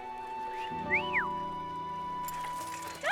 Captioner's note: wolf whistle